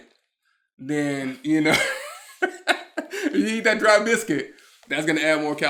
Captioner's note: laughs